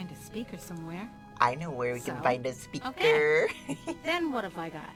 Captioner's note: laughs